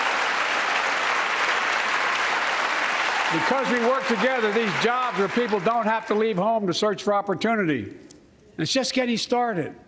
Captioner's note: cheers and applause